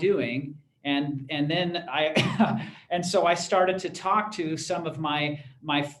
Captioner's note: laughter